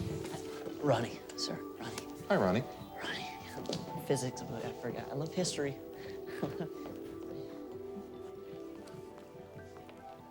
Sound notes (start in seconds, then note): 6.2 laughs nervously